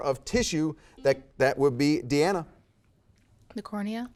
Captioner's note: buzzer beeps